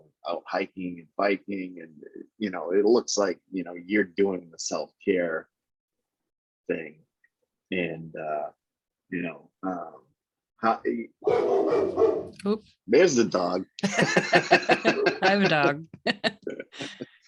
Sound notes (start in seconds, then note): 11.2 dog barking